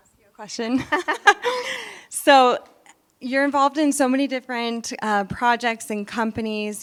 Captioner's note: laugh